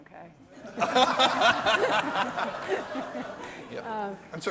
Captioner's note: laughter